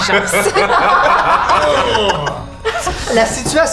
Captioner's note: laughter